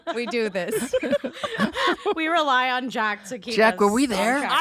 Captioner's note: laughing